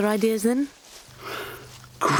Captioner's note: gasp